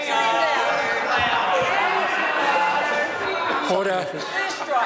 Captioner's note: members shout